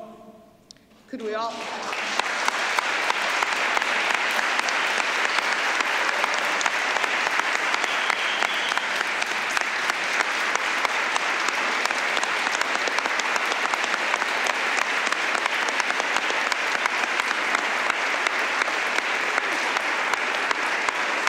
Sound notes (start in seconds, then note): 3.3 applause